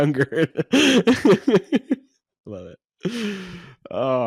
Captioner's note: laughs